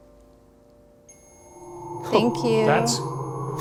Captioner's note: REM-Pod beeping